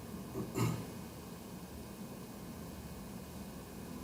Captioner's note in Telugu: గొంతు సవరించుకోవడం